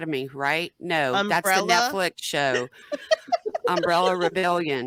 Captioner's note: laughing